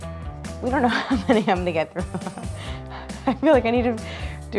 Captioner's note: laughs